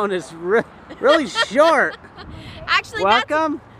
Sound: laughing

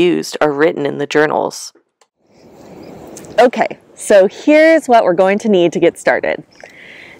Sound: wind rustling through trees and grasses

